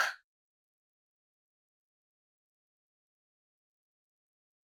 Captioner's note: long silence